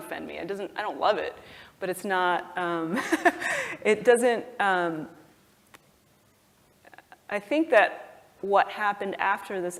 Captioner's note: laugh